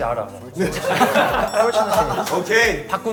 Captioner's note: laughing